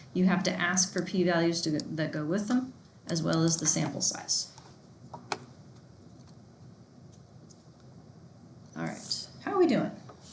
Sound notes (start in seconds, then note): none